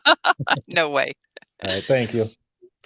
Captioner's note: laughs